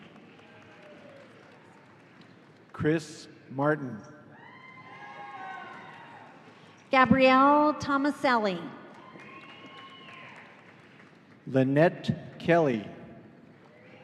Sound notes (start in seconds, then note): 4.4 audience cheering